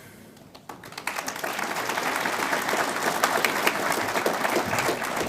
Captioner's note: audience applauds